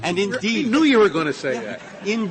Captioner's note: laughter